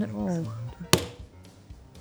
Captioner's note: bang